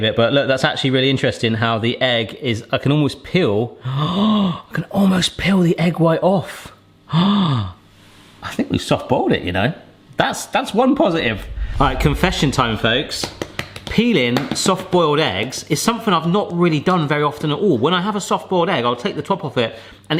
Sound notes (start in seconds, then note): 4.3 sighs; 6.7 sighs; 13.1 egg banging